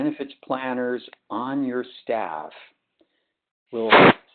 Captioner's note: sliding static